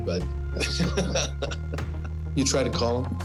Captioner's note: chuckles